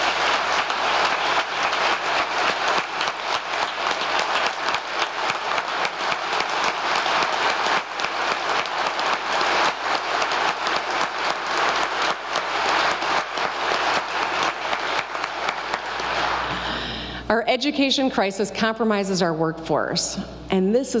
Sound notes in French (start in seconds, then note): 11.1 applause